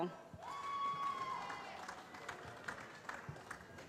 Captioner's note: cheering